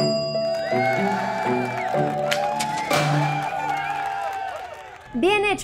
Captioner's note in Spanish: Aplausos